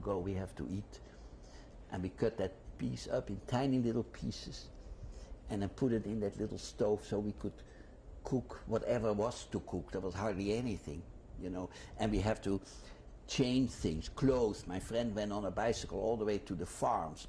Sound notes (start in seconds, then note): none